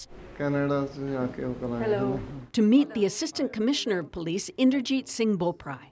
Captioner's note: speaking alternate language